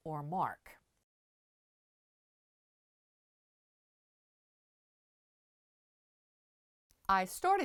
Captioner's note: no Sound Present